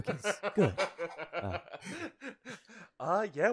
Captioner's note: laughing